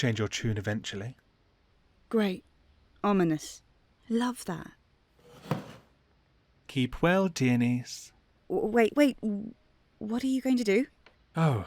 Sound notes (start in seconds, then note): 5.2 chair creaking